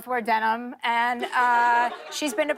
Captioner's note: laughter